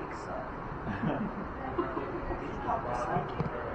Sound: laughter

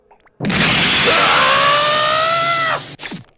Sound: KRILLIN shouts

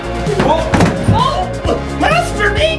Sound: yelps

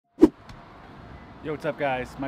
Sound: air whooshing

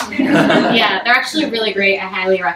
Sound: audience laughs

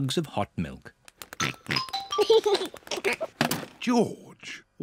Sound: oinks and giggles

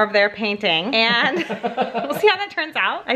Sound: laughing

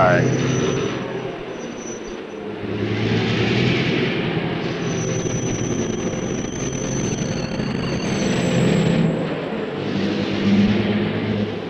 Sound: sound of the train moving

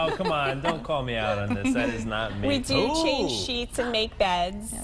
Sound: laughter

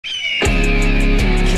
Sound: freedom screech

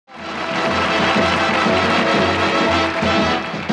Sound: audience applauding; upbeat music

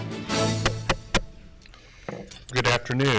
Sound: gavel bangs

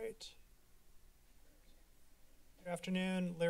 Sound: silence

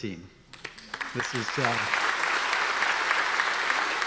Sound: audience applause

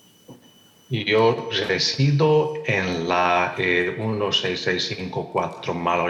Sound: translator speaking in Spanish

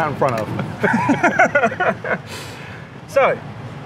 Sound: both laugh

